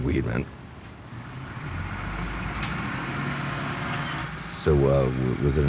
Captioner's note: ήχος αυτοκινήτου